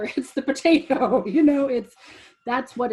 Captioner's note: laughs